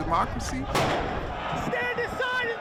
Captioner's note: explosion